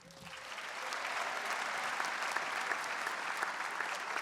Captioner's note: audience applauds